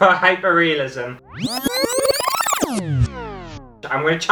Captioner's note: rewind Sound